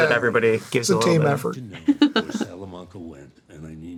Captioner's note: chuckles